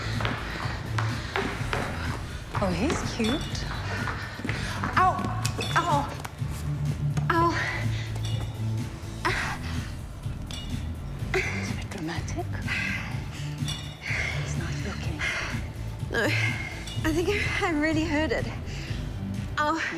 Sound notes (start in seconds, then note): 0.0 taking deep breaths; 4.6 grunts